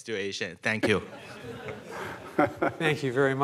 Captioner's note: laughter